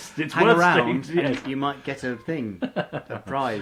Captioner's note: laughs